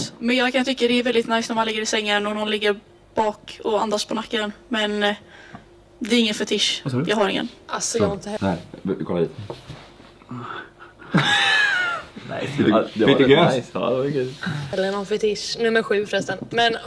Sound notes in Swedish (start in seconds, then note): 10.1 stönar tyst